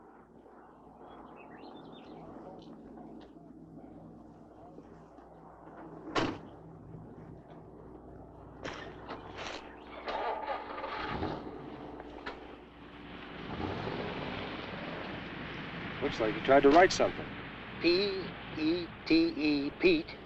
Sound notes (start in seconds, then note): 10.4 car engine rumbling